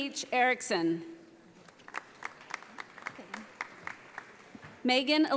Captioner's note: audience applauding